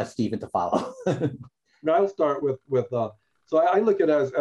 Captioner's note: laughter